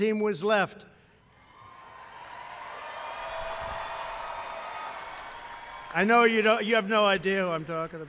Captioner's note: applause